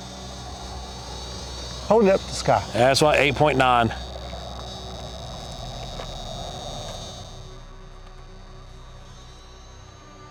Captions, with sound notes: - Hold it up to the sky. - That's about 8.9. (eerie buzzing)